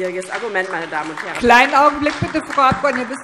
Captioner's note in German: Beifall DIE LINKE und vereinzelt SPD